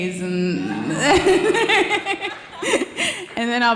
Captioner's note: laughing